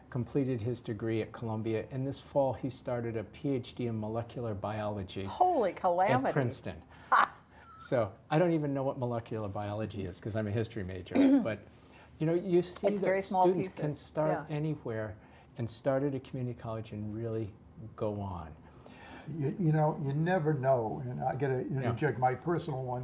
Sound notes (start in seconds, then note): 7.1 laugh